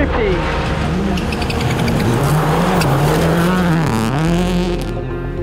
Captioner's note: car engine revving